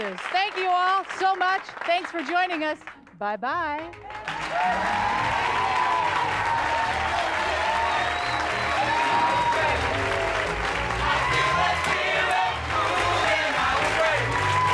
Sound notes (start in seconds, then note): 4.3 applause increases, with woots; 5.7 upbeat gospel piano music; 6.9 choir singing